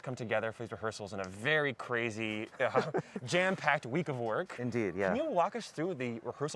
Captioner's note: laughter